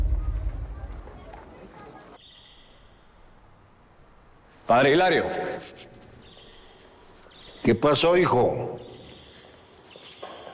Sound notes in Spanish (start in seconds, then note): 0.0 Bullicio